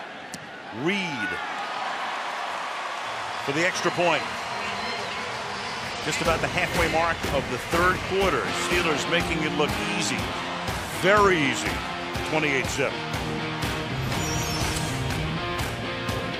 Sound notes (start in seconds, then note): 5.1 cheering